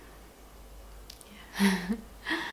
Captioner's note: chuckles